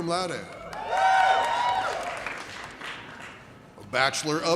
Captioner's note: audience cheers